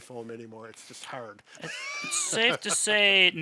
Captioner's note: laughs